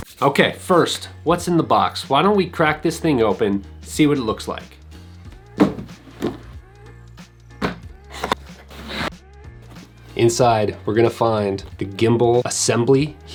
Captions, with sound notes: Okay first, what's in the box? Why don't we crack this thing open, see what it looks like. (calm electronic music) (shuffling) Inside, we're gonna find the gimbal assembly